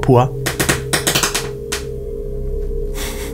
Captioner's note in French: Grincements de parquet